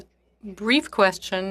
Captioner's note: speaking French